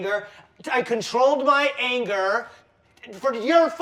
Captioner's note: none